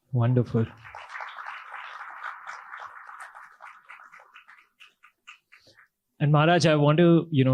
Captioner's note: audience claps